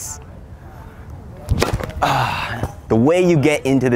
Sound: smashes tennis ball

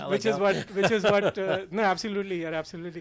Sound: laughing

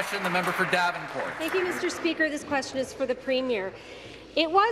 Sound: applause

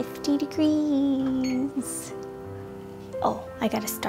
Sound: oven beeping

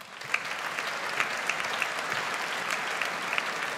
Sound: audience applauds

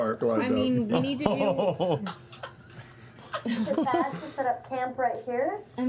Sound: laughter

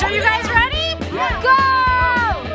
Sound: excited yelling

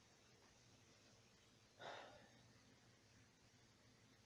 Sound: sighs

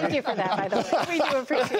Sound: laughter

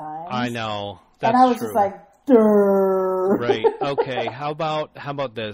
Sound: laughs

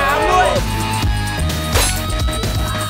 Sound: rock music continues; hit

